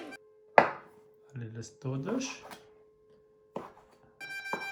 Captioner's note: firefighter siren wailing in the background